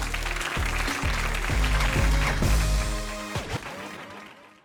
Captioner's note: audience claps